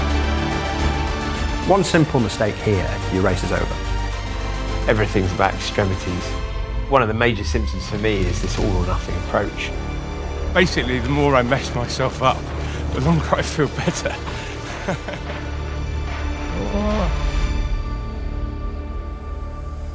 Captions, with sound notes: - One simple mistake here, your race is over. - Everything's about extremities. One of the major systems for me, is this all or nothing approach. Basically, the more I mess myself up, the longer I feel better. (laughs) (dramatic music) (groans)